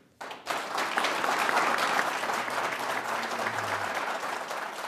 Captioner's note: applause